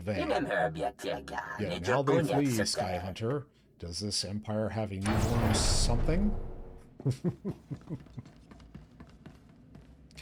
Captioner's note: laughs